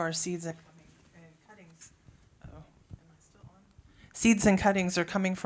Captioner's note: mic cuts out